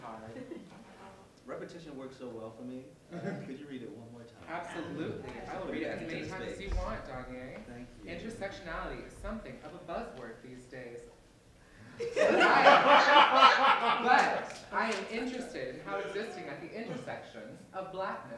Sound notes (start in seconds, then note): 11.9 laughter